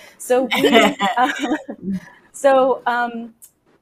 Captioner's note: laughs